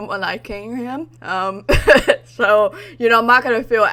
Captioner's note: laughs